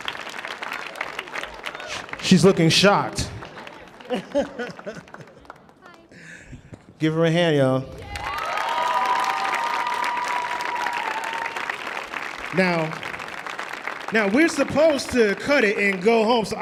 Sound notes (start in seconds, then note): 4.1 laughing; 8.0 audience applauding